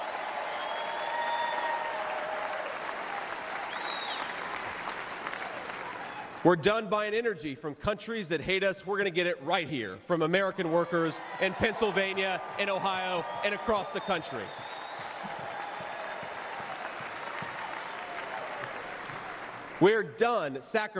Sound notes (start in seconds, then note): 6.9 cheers and applause; 20.3 cheers and applause